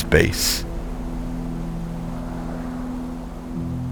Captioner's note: wind blowing